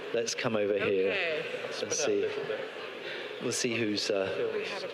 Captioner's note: audience members chattering